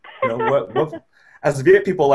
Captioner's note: laughs